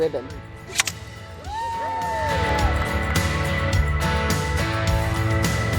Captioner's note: cheering and Applause